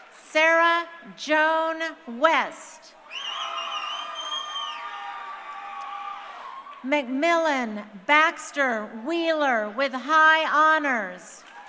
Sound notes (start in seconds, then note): 3.0 crowd cheering